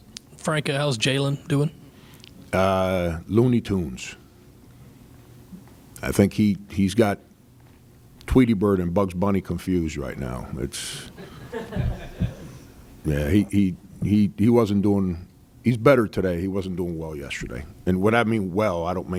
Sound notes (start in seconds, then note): 11.2 laughter